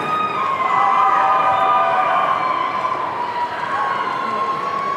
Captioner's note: audience cheering